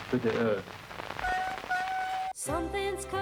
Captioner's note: <i> squeaking</i>